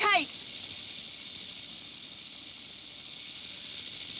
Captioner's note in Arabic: خشخشة الثعبان